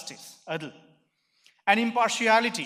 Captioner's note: speaking in foreign language